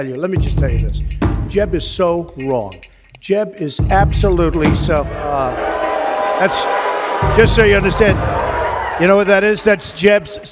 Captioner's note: booing from audience